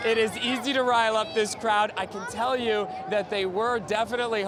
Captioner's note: cheering